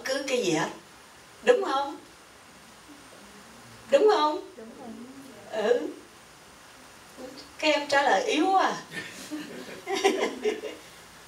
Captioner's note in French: rires